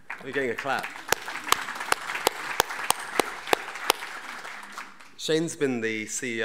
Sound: audience applauding

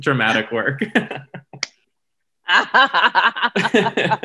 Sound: both laugh

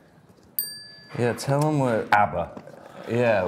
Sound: bell dings

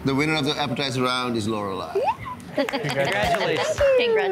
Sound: giggling happily

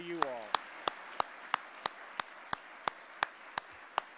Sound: applause

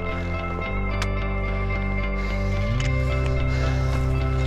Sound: panting

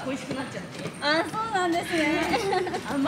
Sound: laughs

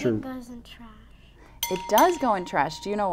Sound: bell rings

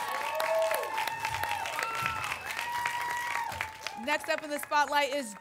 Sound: applause and cheering

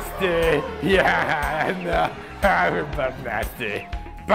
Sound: laughs

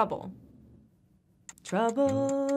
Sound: timer ticking

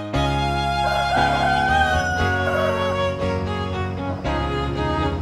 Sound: roosters crows

